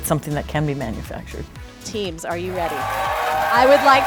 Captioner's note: crowd cheering